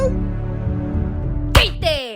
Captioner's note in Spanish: llora